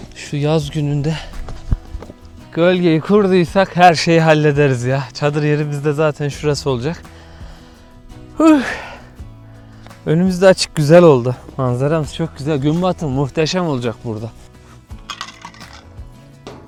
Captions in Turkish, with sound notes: Şu yaz gününde gölgeyi kurduysak her şeyi hallederiz ya. Çadır yerimiz de zaten şurası olacak. [iç çeker] Uh! Önümüzde açık güzel oldu. Manzaramız çok güzel. Gün batımı muhteşem olacak burada.